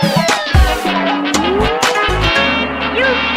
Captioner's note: boing!